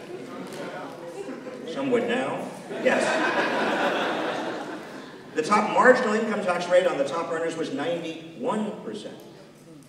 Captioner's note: laughter